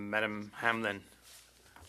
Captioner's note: speaking French